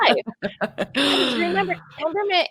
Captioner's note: laugs